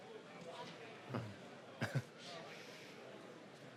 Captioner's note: chuckles